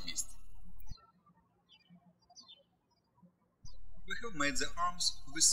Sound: birds chirping

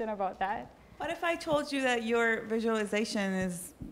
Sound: voiceover

